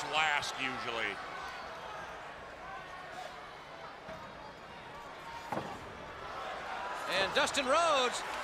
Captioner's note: crowd chatter